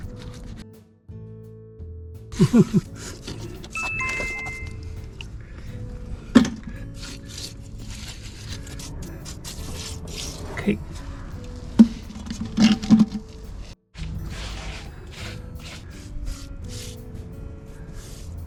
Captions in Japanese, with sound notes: 素手でやるんですか？ ふふっ（笑い）。 金井さんは手でやっていますが真似しないでください！モルタルを扱うときは手袋をしましょう！ 仕上げにモルタルを綺麗に拭き取ります。